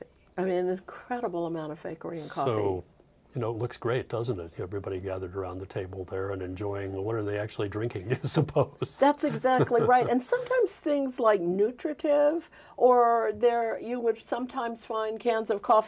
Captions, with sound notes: I mean, there is an incredible amount of fakery in coffee. - So, it looks great doesn't it? Everybody gathered around the table there and enjoying, but what are they actually drinking [laughing] you suppose? - That's exactly right. And sometimes things like nutritive, or you would sometimes find cans of coffee